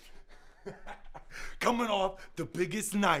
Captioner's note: laughter